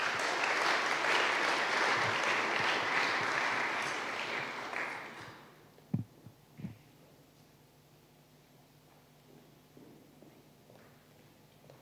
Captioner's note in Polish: oklaski